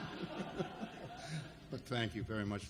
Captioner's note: laughing; audience laughs